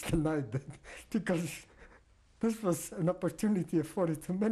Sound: laughs

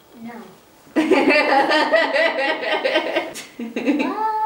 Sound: laughter

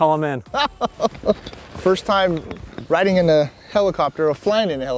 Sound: laughter

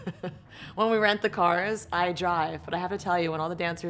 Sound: laughs

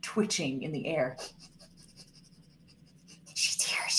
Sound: sniffing

